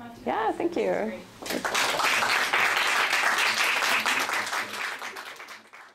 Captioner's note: applause